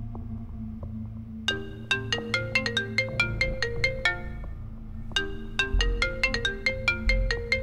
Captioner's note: Phone ringing